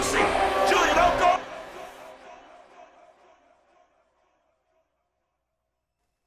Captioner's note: echoing